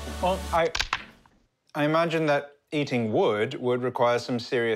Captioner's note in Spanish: sonido de morder pinza